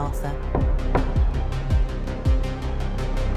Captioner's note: knocking